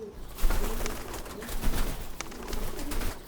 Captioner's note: wings rustling